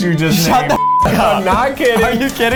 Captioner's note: beep